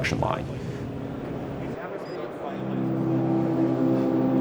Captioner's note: crowd talking